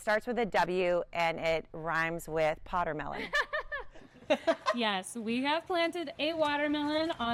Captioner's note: laughing